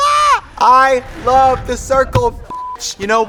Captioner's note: beep